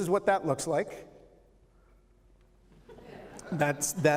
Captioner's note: laughter